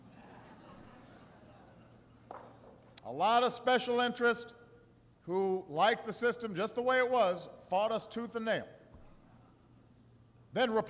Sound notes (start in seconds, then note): 1.8 laughter